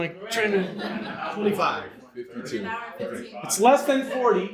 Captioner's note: audience answering